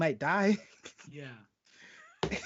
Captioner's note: laughing